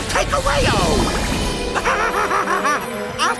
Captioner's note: laughing